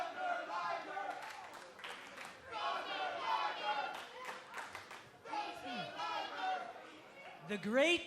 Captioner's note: fans chanting